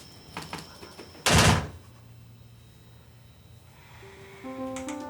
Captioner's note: door slams